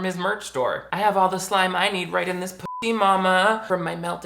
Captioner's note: bloop